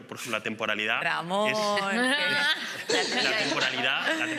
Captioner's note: laughing